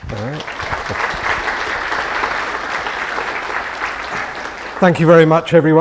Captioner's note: audience applauding